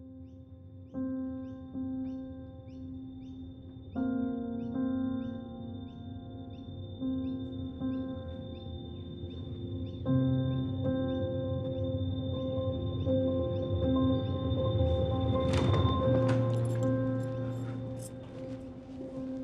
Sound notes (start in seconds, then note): 3.3 chirping birds, melancholy piano; 14.8 door opens